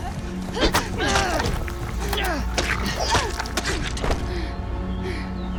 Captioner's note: Kathleen and Janice groaning